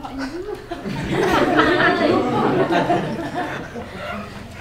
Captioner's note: laughter